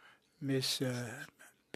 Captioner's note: speaking French